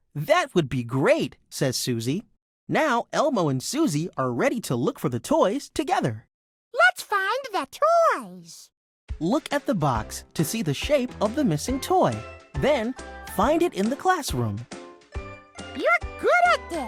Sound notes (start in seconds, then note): 9.3 voiceover; 14.7 upbeat music